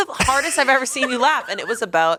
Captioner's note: laughs